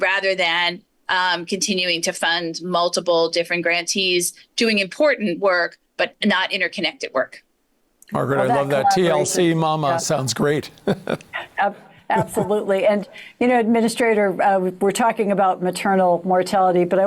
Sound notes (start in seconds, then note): 10.8 chuckling